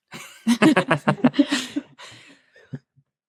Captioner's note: laughing